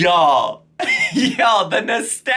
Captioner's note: giggles